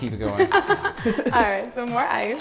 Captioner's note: laughing